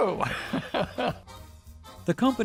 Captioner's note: laughing